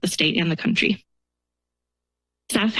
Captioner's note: pause